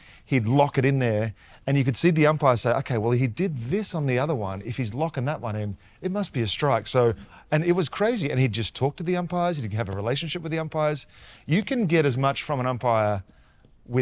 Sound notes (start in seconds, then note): none